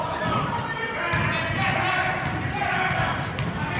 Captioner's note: yelling